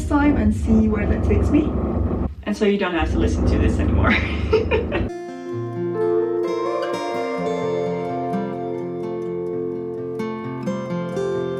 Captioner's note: drilling